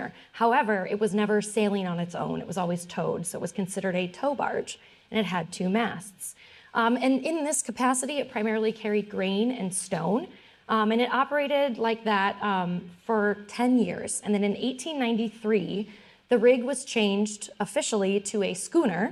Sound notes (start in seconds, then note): none